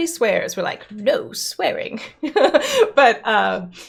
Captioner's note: laughs